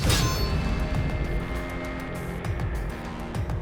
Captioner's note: crashing